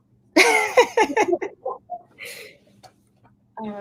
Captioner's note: laughs